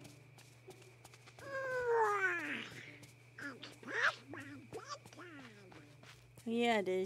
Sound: Donald Yawns

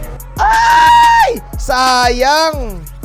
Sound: screech

